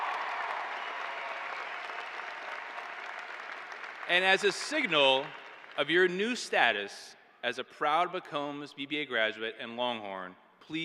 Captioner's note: cheers and applause